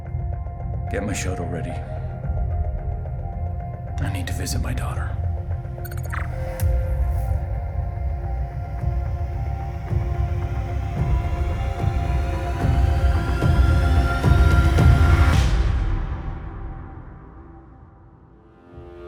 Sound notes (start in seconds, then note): 5.8 confirmation beep